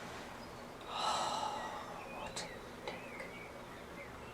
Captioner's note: sighs